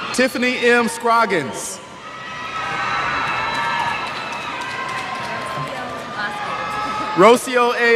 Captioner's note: cheers